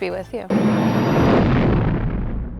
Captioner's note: lightspeed sound